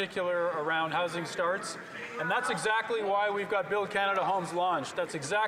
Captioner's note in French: voix de l'interprète